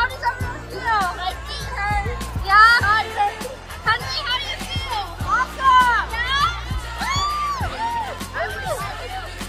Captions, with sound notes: How does everyone feel? My feet hurt. Yeah. Henry, how do you feel? Awesome. Yeah. (cheering)